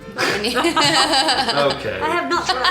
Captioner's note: laughter